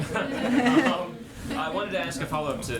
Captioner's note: laughter